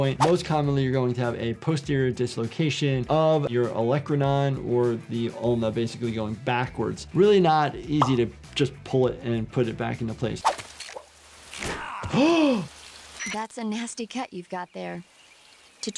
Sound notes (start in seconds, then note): 10.5 tripwire rattles; 11.7 Snake grunts; 11.8 gasps